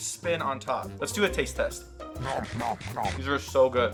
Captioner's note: comical chewing